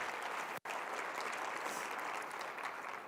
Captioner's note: applause